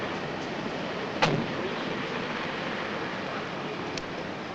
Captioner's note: van door slams